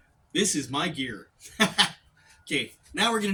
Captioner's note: laughs